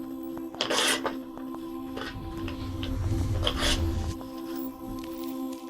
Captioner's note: contract rips